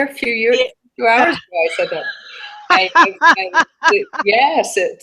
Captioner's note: laughter